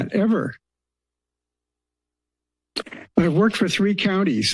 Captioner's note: pause